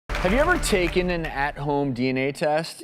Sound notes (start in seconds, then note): 0.1 audience applause